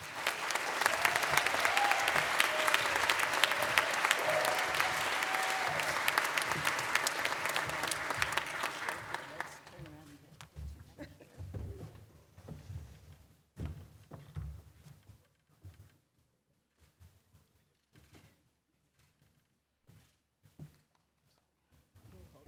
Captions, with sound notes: service to CSUN. Come on up, Deborah. [ Applause ]